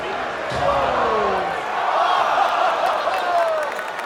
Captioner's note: crowd groans